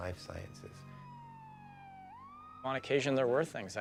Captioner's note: sirens wailing